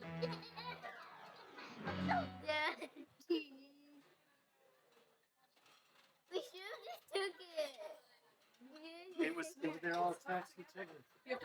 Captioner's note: children laughing